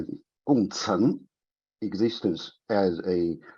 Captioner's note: speaks in a foreign language